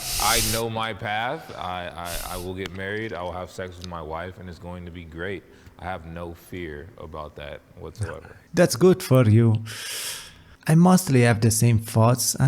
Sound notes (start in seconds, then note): 9.6 inhale